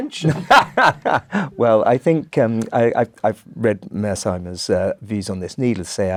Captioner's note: laugh